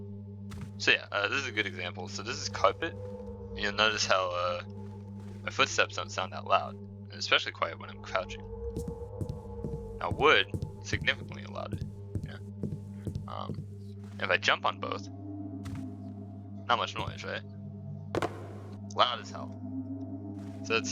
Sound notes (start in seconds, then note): 4.7 barely audible footsteps; 10.4 somewhat loud footsteps on wood; 12.6 somewhat loud footsteps on wood; 15.6 very quiet thud; 18.1 loud tapping on wood